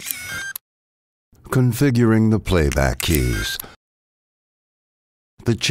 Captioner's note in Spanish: Teclas de reproducción